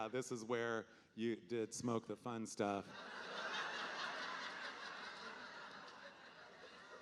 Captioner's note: audience laughing